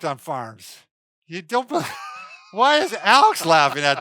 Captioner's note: laughs